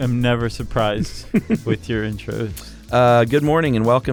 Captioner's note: laughs